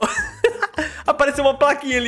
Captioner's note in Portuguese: risos